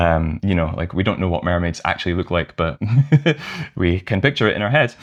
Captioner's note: laughter